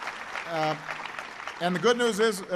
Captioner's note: applause